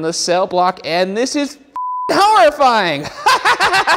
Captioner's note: beep; laughs